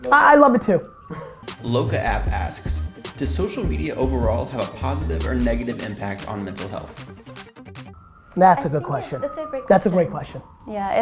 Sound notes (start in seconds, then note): 1.7 voiceover